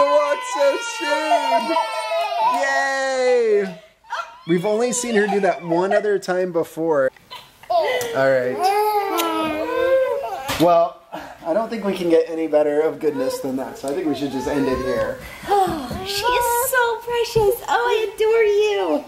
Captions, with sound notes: She's gonna walk so soon. (cheers) Yay. We've only see her do that one other time before. Alright. Well, I don't think we can get any better of goodness than that. So I think we should just end it there. - She is so precious. Oh I adore you.